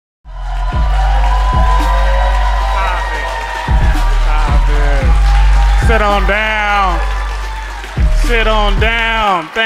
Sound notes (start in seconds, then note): 0.5 crowd cheering; 0.5 pumping music